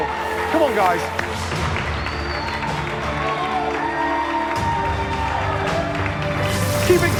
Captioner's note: cheers and applause